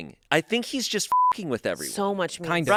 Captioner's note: beep